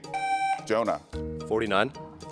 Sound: buzzer beeps

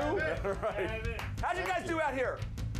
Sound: audience cheering

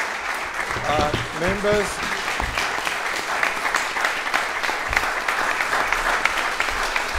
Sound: applause

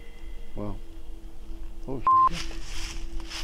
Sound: beep

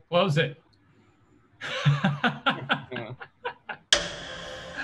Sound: laughs

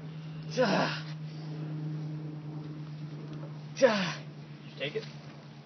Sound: still grunting in pain

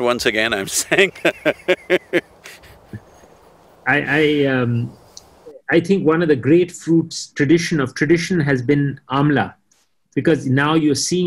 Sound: both laugh

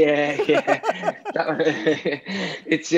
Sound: laughs

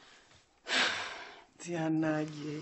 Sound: stella sighs

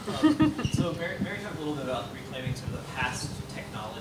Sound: faintly speaking

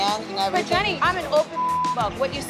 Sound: beep

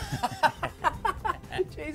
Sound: laughing

